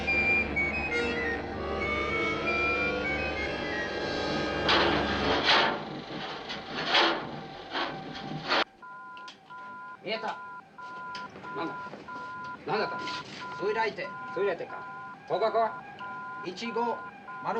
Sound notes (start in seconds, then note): 4.5 loud clanging; 8.5 beeping; 9.8 speaking japanese